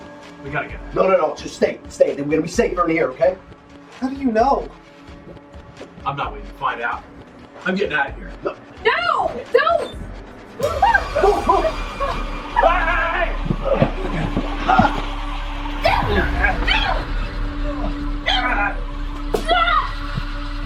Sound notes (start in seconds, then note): 10.1 suspenseful music; 12.5 man screaming; 15.9 woman screaming